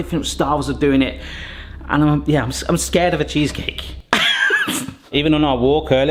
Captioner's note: laughs